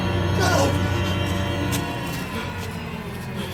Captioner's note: gasping